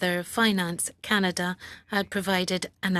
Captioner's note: speaking French